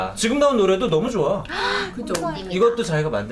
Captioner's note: gasp